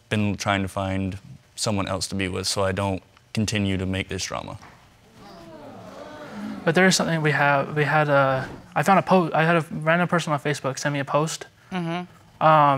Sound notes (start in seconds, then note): 5.0 audience exclaims